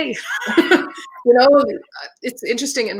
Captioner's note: laughing